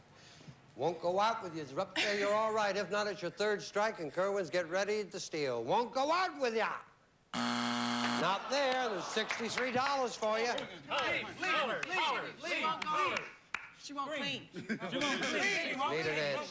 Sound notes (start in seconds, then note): 7.3 buzzer